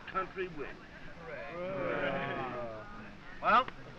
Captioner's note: all agreeing